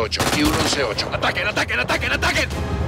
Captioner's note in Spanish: Disparos